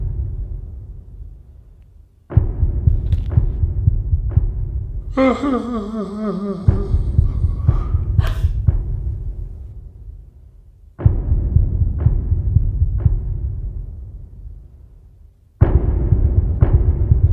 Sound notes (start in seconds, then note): 5.1 a voice sobs quietly. The owner sounds like an old man; 8.2 WOMAN gasps